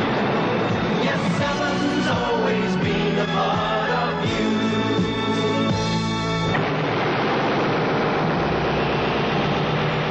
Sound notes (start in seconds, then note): 6.5 boom; 6.5 echoing noises